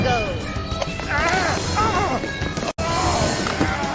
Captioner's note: shouts; groaning